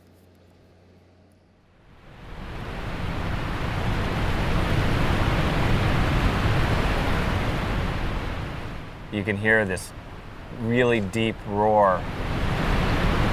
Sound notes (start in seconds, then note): 2.0 rushing waves